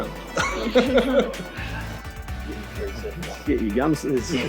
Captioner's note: laughs